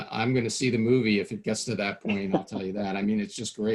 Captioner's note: laughing